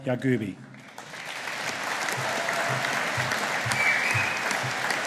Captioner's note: audience applauding